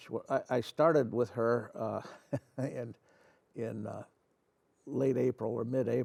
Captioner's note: chuckles